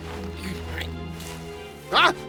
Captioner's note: bush rustling; struggling